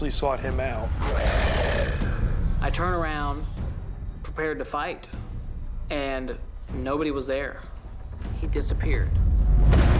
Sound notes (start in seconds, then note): 0.9 growling